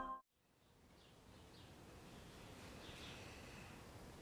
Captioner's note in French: gazouillis